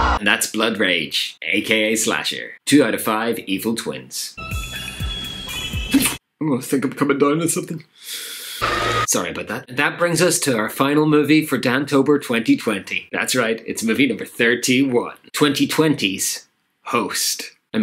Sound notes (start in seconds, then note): 6.0 sneezes